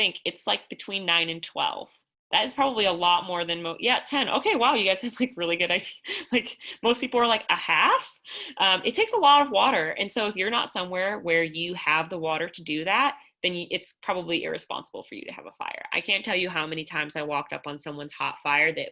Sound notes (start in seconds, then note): 5.8 laughter